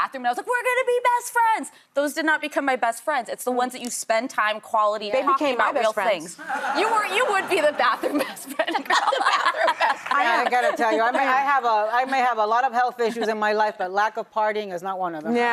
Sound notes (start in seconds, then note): 8.8 laughs